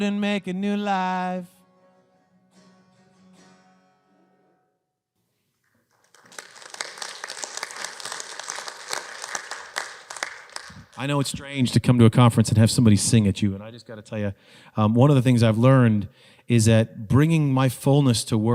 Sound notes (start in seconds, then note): 5.7 audience applauds